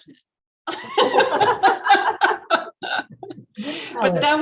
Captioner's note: both laughing